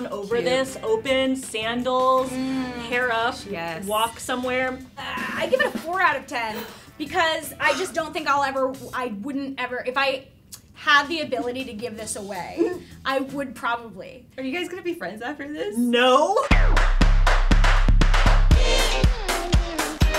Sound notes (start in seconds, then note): 7.6 gasps; 16.5 upbeat music